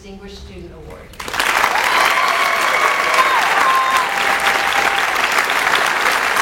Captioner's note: audience cheers and whistles